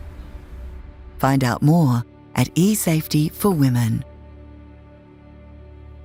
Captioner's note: voiceover